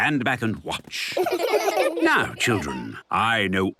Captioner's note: laughter